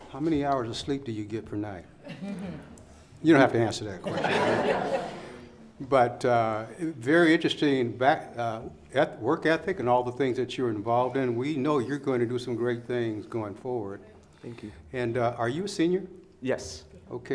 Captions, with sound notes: How many hours of sleep do you get per night? You don't have to answer that. (laughing) But very interesting back at work ethic and all the things that you were involved in, we know you're going to do some great things going forward. Thank you. And are you a senior? Yes.